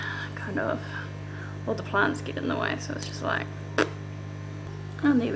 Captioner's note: fart noise